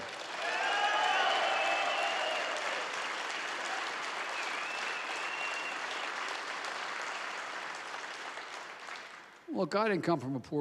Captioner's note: applause